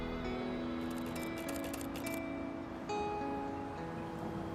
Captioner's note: camera shutter clicking